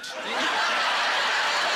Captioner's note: laughing